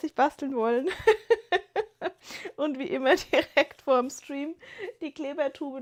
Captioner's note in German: gelächter